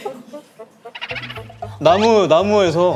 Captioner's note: hahaha